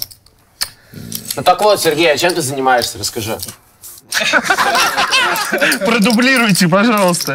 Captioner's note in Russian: смех